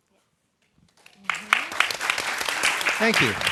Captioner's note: applause